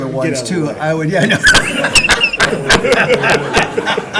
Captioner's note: laughing